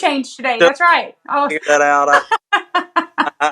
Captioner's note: laugh